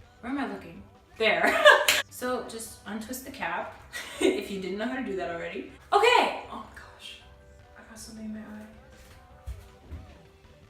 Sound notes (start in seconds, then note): 1.5 laugh